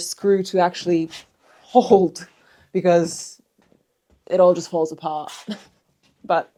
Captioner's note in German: lacht